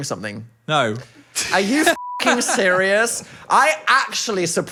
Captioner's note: beep; laughs